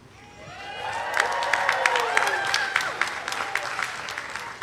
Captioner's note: audience applauding